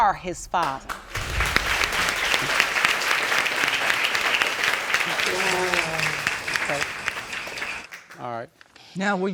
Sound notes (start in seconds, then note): 1.8 applause